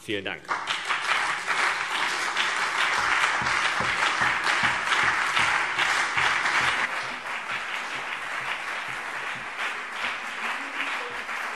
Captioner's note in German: Anhaltender Beifall CDU und BÜNDNIS 90/DIE GRÜNEN